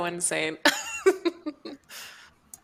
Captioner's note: laughs